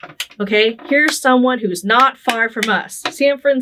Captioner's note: clapping